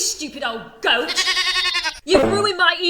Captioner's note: goat bleating